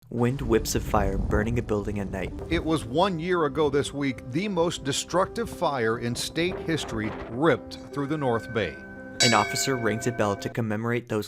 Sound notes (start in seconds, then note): 8.0 A bell rings